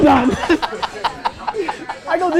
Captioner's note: laughs